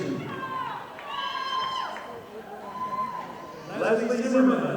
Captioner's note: audience applauding